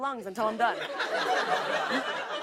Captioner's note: laughter